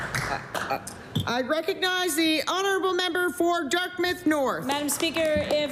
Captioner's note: applause